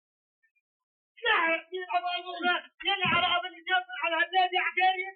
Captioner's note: shouting in Arabic